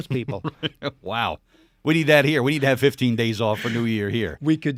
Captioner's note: chuckling